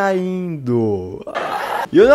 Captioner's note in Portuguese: Risadas de Fundo